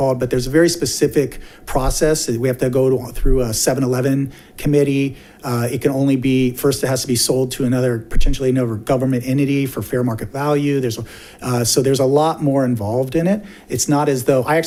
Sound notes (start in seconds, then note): none